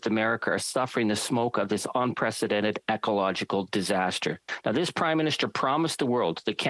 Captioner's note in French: voix de l'interprète